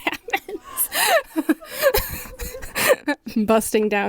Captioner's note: laughing